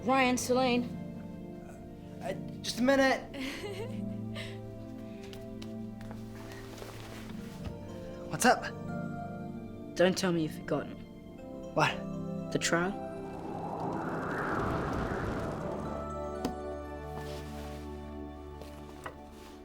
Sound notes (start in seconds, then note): 3.3 Salene giggles